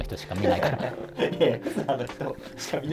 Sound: laughing

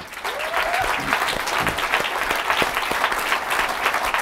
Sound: audience applauding

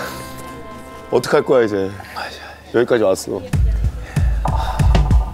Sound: sigh

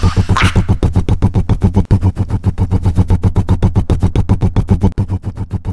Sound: rumbling

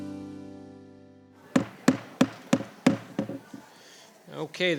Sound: gavel bangs

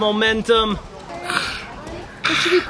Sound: gasping

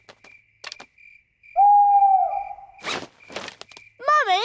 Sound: hooting

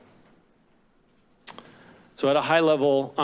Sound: tongue clicks

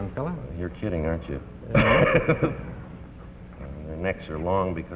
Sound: laughs

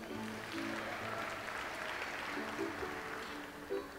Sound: audience applauds

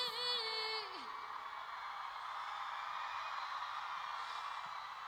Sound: cheers and applause

